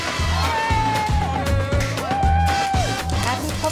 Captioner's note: people cheer